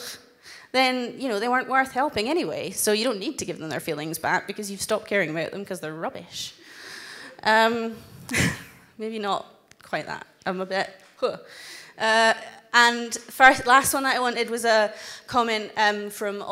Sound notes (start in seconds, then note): 8.2 laughs